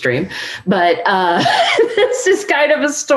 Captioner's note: laughs